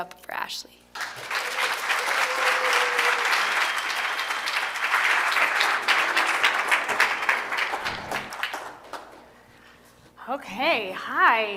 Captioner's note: applause